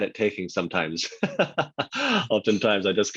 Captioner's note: laughs